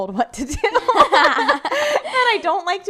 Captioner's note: laughing